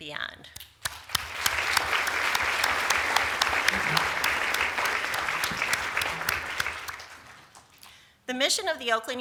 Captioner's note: applause